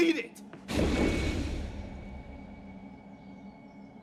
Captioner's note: portal whooshes